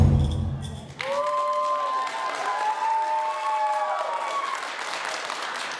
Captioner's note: applause